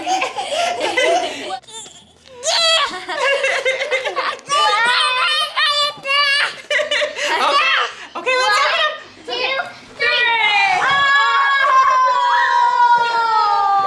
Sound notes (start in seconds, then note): 0.0 children laugh; 1.8 babbles